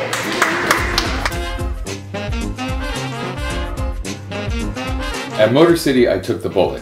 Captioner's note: applause